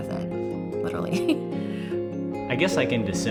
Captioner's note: laughs